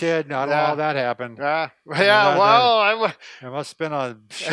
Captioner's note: laughs